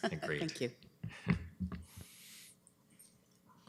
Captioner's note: chuckles